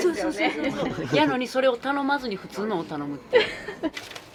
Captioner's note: laughs